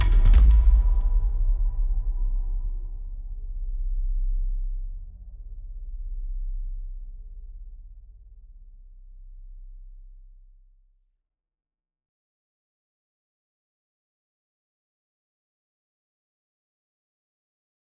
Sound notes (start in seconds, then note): 4.4 music fades; 9.4 silence